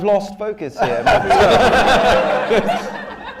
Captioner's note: laughter